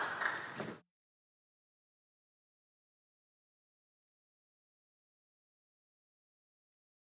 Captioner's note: some applause